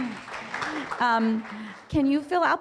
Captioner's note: audience applause